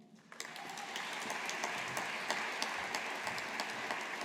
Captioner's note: audience applauding